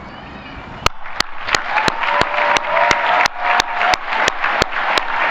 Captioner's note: applause